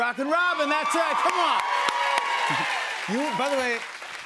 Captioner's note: cheers and applause